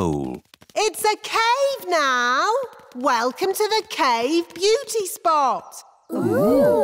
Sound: echoing

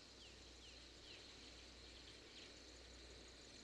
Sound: birds chirping

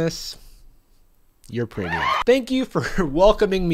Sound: crowd cheering

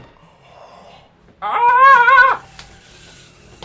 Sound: wails

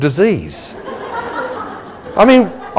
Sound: laughing

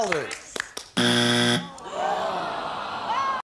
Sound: buzzer

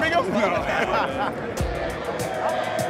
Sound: laughs

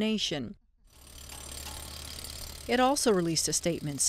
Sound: motor revving

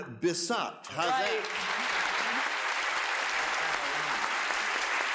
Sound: audience applause

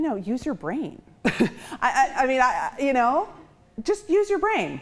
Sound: chuckles

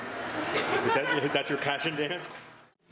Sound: laughter

